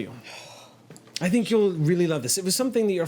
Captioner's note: sighs